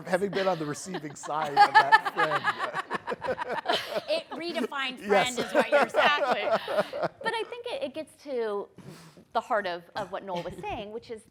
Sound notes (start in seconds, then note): 2.0 people laugh